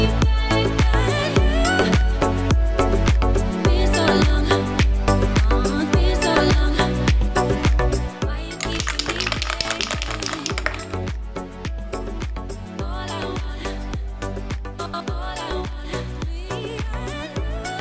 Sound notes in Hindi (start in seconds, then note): 12.0 तालियां